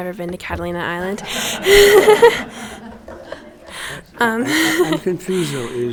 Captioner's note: laughing